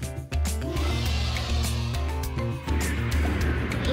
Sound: cheering; engine whooshing

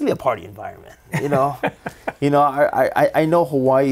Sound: chuckling

